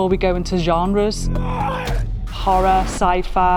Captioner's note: roaring